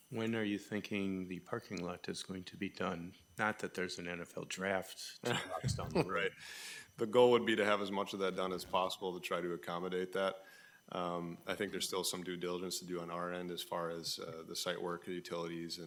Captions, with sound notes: When are you thinking the parking lot is going to be done? Not that there's an NFL draft two months down the road. (laughs) Right. The goal would be to have as much of that done as possible to try to accommodate that. I think there's still some due diligence to do on our end as far as the site work, the utilities,